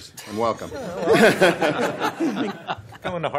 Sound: laughter

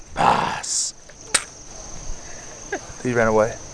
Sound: tripod thumping

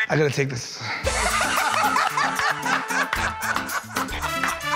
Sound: laughter

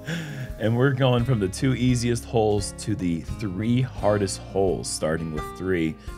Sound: laughs

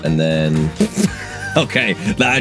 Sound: laughs

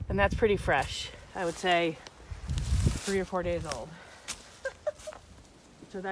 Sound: laughs

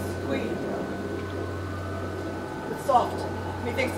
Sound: quiet eerie sounds

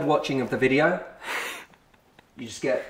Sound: laughter

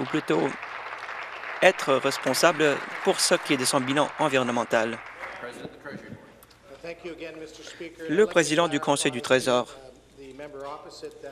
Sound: applause

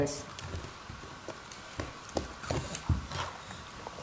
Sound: crunching

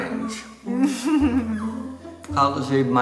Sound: giggles

